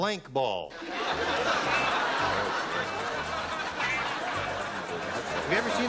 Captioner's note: laughter